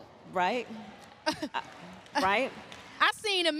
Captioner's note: applause